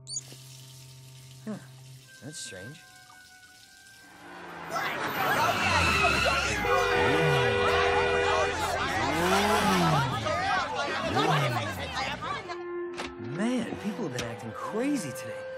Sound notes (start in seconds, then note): 0.0 water running; 4.9 people shouting indistinctly; 6.6 car horn honking; 6.6 tires screeching